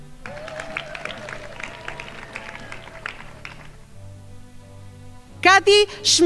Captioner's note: crowd applauding